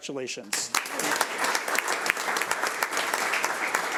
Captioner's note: audience applauds